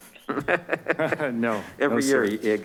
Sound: man chuckles

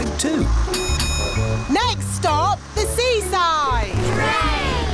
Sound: bell dings

